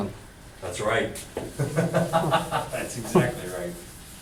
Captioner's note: voiceover; laughs